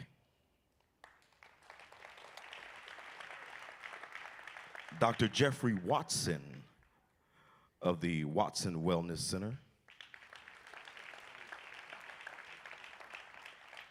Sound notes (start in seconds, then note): 0.7 applause; 9.8 applause